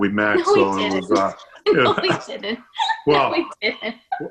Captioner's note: laughs